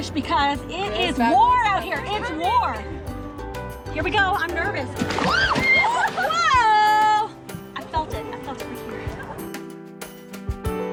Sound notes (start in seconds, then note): 5.2 shrieking